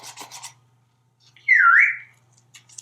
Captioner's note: whistle